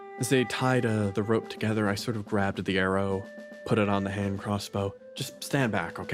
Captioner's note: none